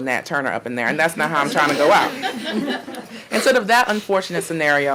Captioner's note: audience laughing